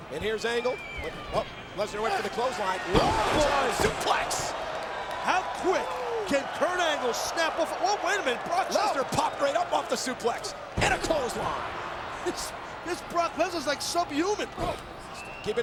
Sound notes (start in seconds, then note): 2.9 bodies thud